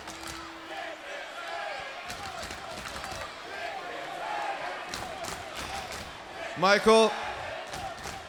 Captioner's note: crowd cheering